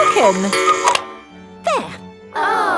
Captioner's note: cuckoo clock